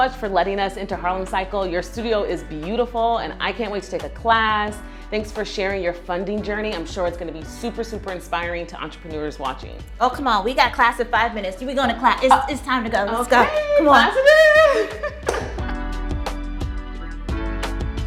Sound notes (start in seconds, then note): 13.2 laughs; 15.4 upbeat music